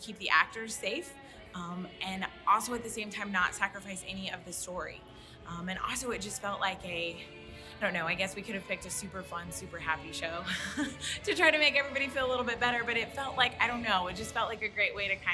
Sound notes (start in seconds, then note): 10.4 laughs